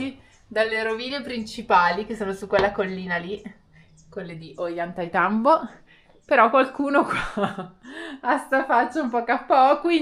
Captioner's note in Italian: risate